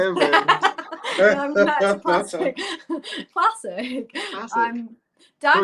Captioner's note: laughter